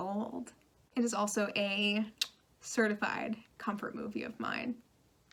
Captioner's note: tongue click